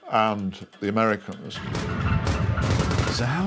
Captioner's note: sub-machine gun fire